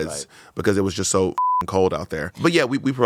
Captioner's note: beep